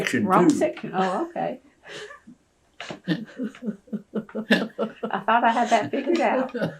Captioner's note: laughter